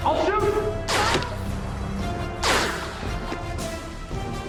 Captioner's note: bullets whizzing